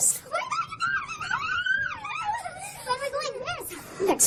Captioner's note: cheering